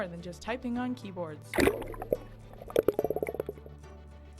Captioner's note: water bubbling